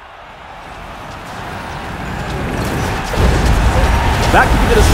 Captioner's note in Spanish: Ovación del público y sonidos del juego LoL